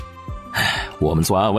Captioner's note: sigh